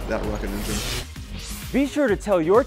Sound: sound Effects

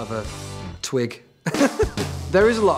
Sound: laughs

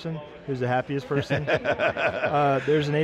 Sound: laughter

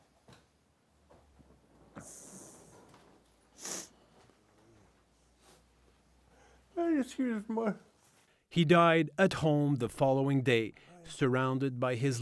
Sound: speaking French

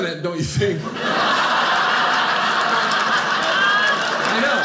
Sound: audience laughing

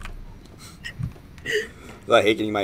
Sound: laughs

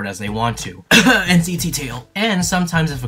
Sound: not so subtly coughs

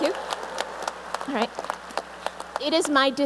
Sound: applause

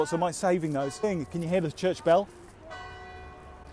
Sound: bell Chime

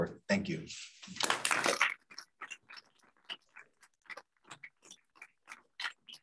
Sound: applause

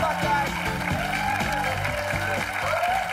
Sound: cheers and applause

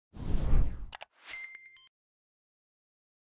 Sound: logo whooshing

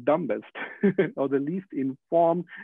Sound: laughing

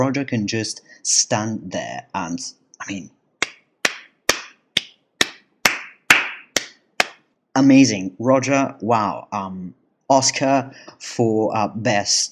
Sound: hands clapping

